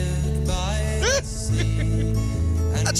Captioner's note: laughing